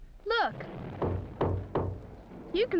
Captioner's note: knocking on wood